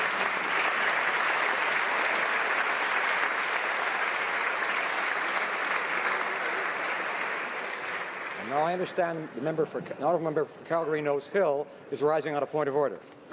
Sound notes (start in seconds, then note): 0.0 applause